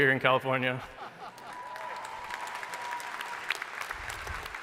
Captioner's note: crowd applauding